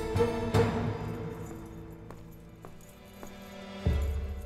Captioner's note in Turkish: Ayak sesi; Müzik - Gerilim